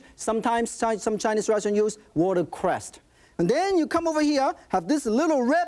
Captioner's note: none